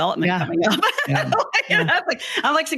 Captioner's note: laughs